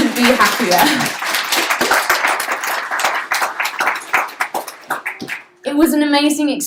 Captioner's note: applause